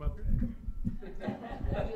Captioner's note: laughter